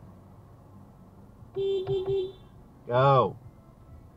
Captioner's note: BEEEP beepbeep